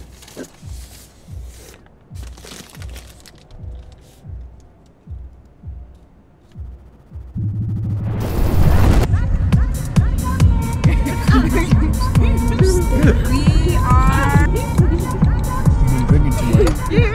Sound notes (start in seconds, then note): 9.4 booming music; 10.8 laughter; 13.3 typing sounds